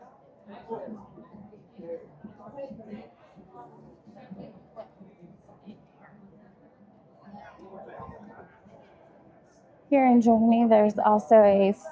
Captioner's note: crowd chattering